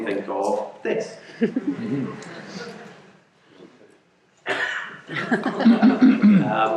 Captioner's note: audience laughing